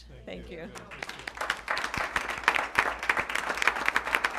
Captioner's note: applause